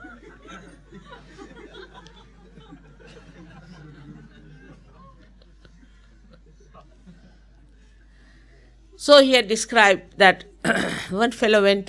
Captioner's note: laughter